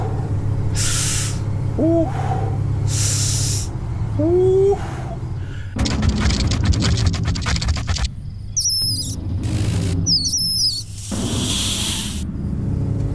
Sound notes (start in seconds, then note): 2.2 Papi exclaims; 6.2 scorpion scurries; 9.5 animals squeak, hiss